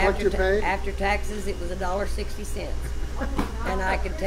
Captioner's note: laughs